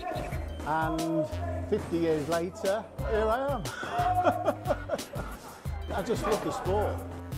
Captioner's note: laughs